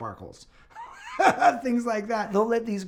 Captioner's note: chuckling